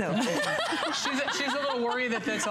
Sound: laughter

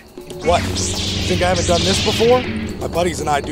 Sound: sabers igniting

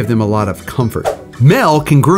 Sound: screen swooshes

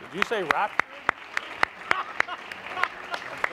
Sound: applause

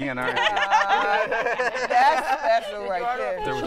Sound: laughter

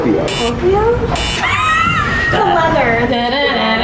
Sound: all laugh

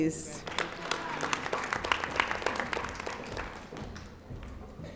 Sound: audience applauding

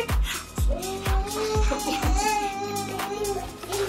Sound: laugh

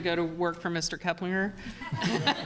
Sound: laughter

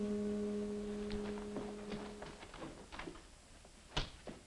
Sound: footsteps thudding

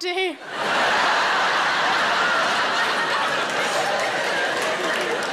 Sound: audience laughing

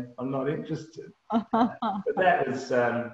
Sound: laughs

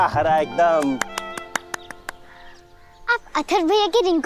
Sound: applause

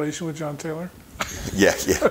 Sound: chuckling

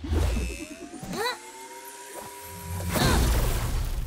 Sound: grunting

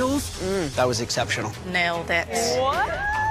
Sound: moans

